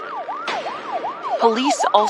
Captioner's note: sirens wailing